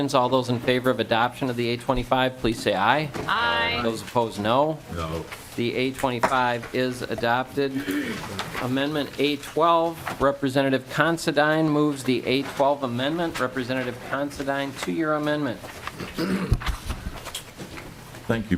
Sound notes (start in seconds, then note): 8.5 chorus of ayes